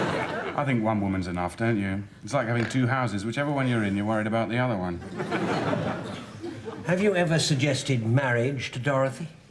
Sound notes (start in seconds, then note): 0.0 audience laughs; 5.0 audience laughs